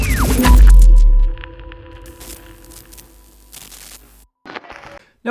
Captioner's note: radio dialing; crackling static